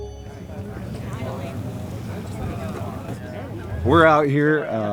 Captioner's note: crowd noise